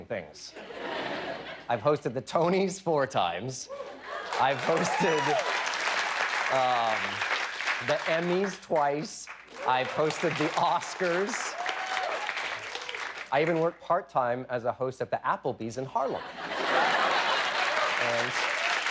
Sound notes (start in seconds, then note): 0.0 laughter; 4.2 cheers and applause